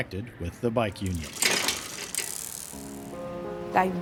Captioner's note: metals clanking and whirring; somber music